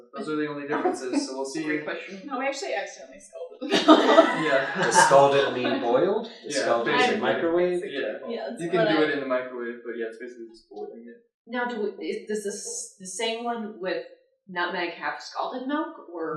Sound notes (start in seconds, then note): 3.6 laughter